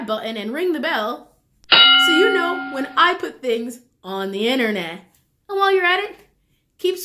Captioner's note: bell rings